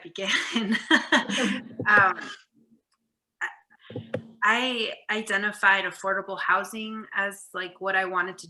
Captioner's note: laughs